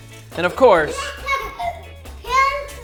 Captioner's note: boy laughs